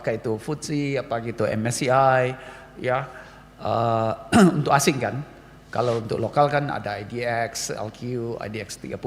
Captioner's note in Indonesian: berdehem